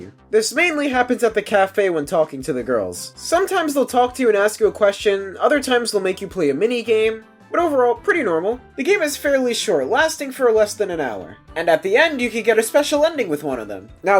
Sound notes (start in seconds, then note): none